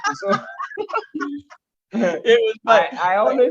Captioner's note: laugh